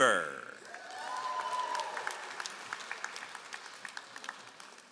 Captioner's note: all applauding